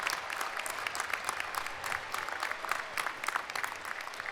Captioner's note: applause